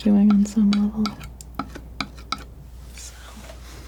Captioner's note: tapping